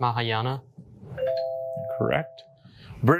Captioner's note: bell dings